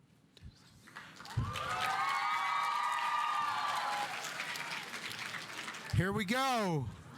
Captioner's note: audience applauding; audience cheering